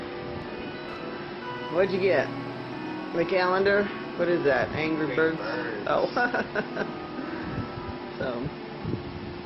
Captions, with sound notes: What'd you get? A calendar? What is that, Angry Birds? - Angry Birds. (laughs) - So.